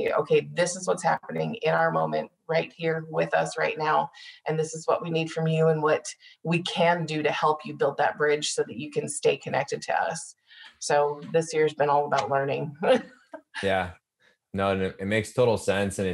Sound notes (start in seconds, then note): 13.4 laughing